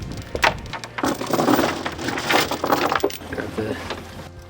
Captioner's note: metal clanking loudly